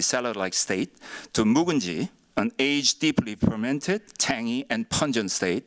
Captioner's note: korean